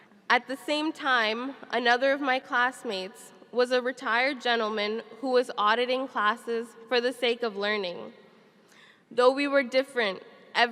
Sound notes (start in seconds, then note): none